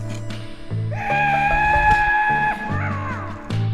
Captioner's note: cowboy Screams